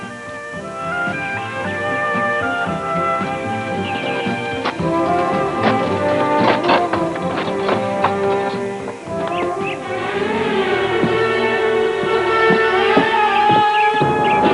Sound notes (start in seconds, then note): 4.3 rattling; 9.5 footsteps; 9.5 panicked music; 13.5 footsteps